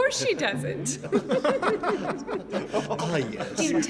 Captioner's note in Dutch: allemaal lachen